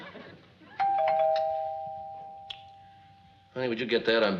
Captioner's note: chuckles; doorbell rings